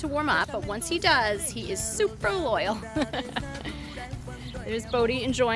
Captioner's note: laughs